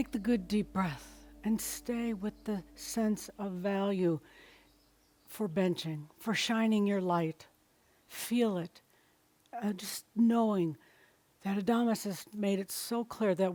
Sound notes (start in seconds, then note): none